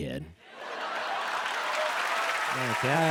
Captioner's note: cheers and applause